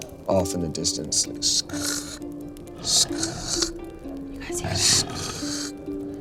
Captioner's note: imitating dragging